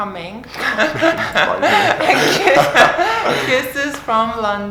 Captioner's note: laughter